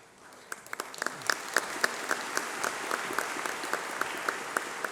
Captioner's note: applause